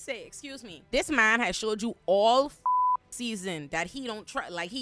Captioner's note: beep